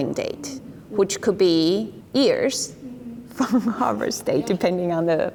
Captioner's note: laughs